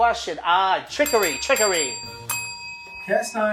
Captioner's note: ding